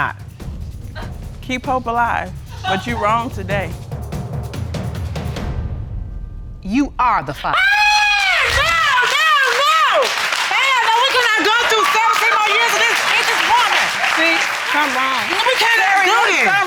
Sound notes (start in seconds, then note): 3.0 audience laughs; 7.5 screams; 8.3 audience applauding